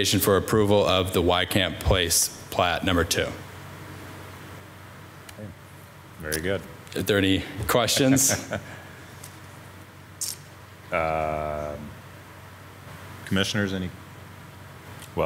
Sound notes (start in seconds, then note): 7.9 laughing